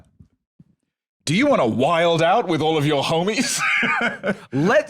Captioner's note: laughs